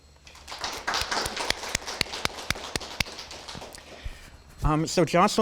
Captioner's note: attendees applauding